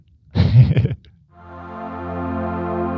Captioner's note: laughing; soft music